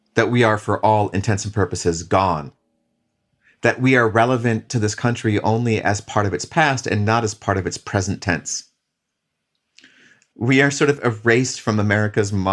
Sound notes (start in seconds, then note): none